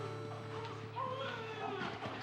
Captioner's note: baby crying